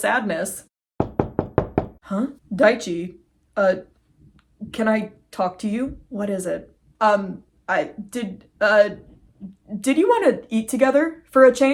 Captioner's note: knocking; director stammering